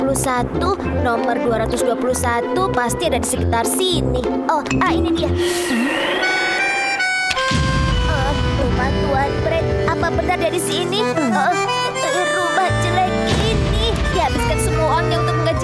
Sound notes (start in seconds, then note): 5.5 wind howls; 6.2 somber music